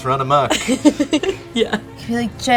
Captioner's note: laughs